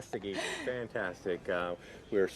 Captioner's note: laughs